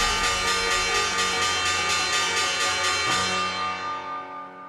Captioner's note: bell clinging